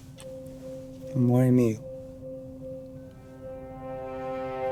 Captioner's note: speaking in Italian; tense music